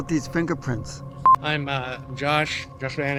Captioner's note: beep